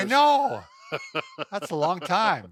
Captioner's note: laughing